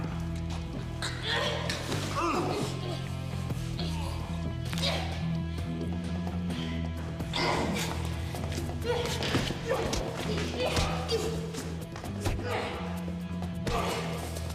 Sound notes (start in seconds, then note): 4.7 neck cracking; 9.4 blows thudding; 9.4 people groaning